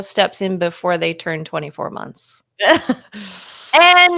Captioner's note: laughing